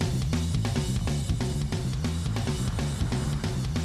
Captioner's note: none